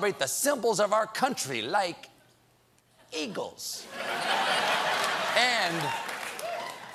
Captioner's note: laughter